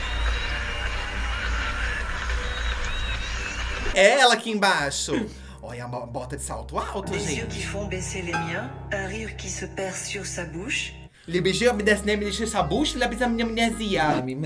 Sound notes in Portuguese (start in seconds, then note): 7.6 narração em francês; 11.0 imita narração